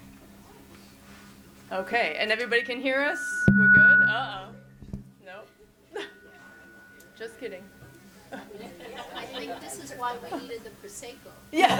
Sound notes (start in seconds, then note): 1.7 mic whistles in a high pitch; 5.9 chuckles; 8.0 audience chuckles